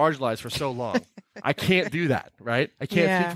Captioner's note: laughing